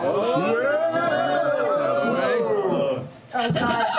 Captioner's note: cheering